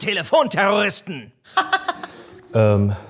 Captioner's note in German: Lachen